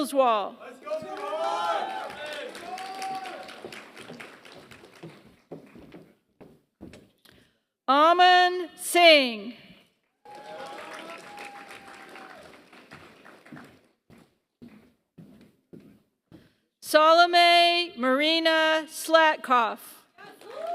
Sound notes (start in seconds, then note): 0.3 applause; 20.2 applause